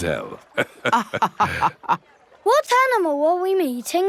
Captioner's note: both laughing